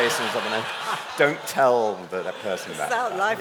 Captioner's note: laughter